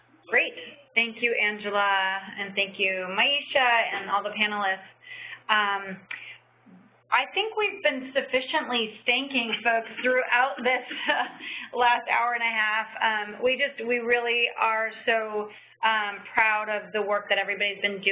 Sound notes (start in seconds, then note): 10.5 laugh